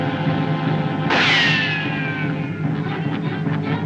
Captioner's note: gunshot